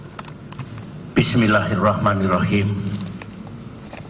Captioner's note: non-english speech